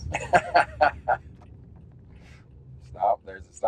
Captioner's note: laughs